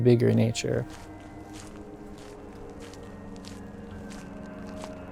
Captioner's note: footsteps crunching